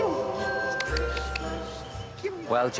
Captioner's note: clicks tongue